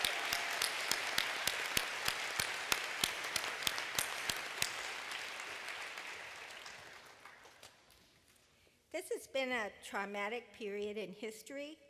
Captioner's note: applause